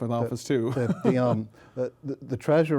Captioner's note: laughter